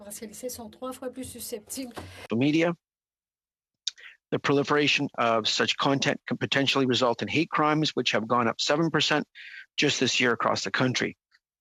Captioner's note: speaking French